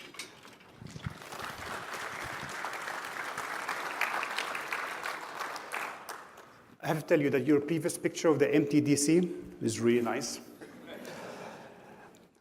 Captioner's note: applause